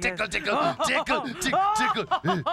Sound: laughing

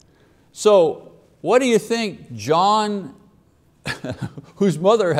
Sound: chuckles

